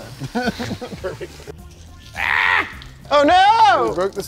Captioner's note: laughing